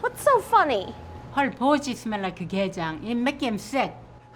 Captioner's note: speaking in Korean